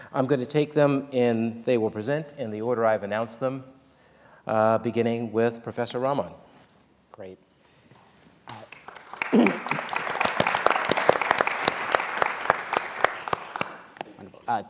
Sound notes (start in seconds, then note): 8.4 applause; 9.2 clears throat